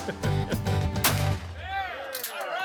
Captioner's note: gun shot; cheers